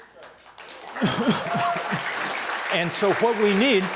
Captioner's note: audience applause